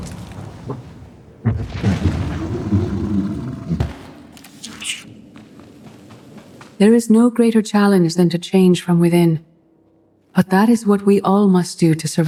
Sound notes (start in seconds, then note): 3.7 gunshots